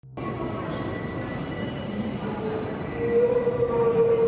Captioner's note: train wheels squealing